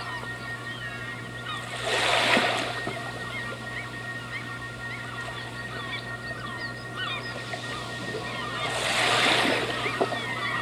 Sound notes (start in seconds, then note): 0.1 water noises; 2.7 birds singing